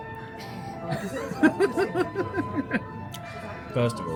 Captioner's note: laughs